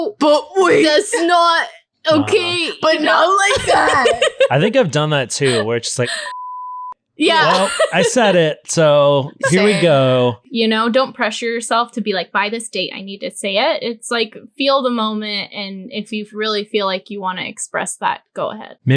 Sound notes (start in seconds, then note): 2.1 laughing; 6.2 beep